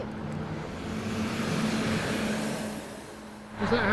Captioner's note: bus motor growls